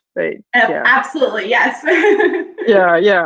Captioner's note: laughs